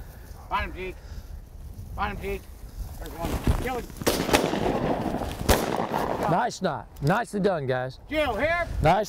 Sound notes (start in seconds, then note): 4.0 gunshots firing